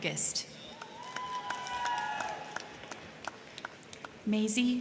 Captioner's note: crowd cheering; crowd clapping